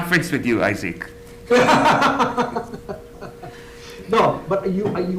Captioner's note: laughs